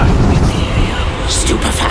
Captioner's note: whispers of 'imperio'